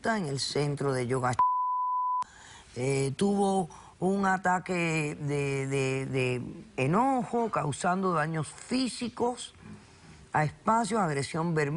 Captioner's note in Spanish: Bip